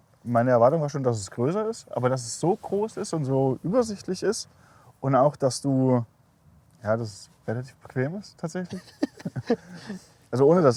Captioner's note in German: lacht